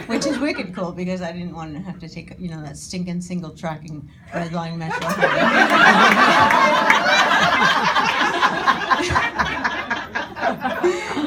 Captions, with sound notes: which is wicked cool because I didn't want to have to take that stinkin' single tracking red line metro home. (audience laughing)